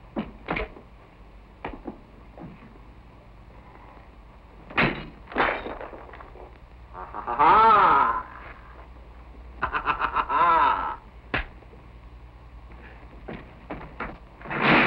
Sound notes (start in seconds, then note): 9.6 laughing